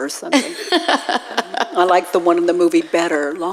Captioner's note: laughing